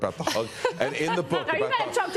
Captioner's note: laughter